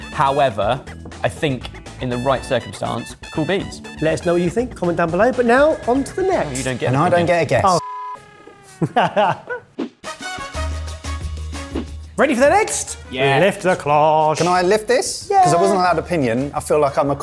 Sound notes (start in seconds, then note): 7.8 beep; 8.6 laughing; 10.0 upbeat music